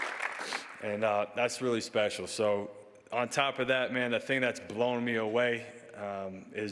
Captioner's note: applause